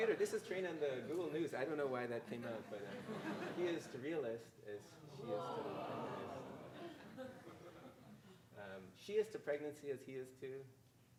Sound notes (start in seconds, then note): 0.0 audience laughing; 2.6 audience laughing; 4.9 audience chattering incoherently; 7.5 audience laughing